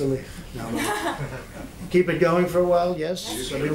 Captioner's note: laughter